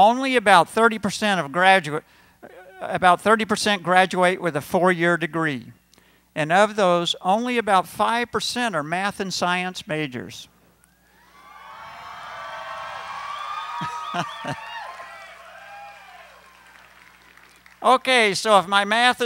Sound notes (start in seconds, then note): 11.1 cheering